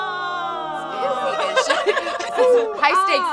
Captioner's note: angel chorus singing; all giggling